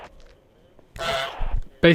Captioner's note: honk